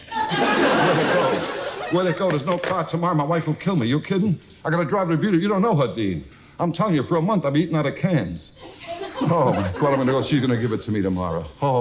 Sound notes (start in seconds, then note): 0.1 audience loudly laughs; 8.7 audience giggles